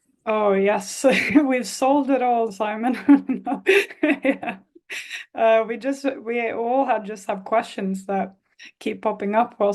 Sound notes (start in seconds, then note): 2.9 laughs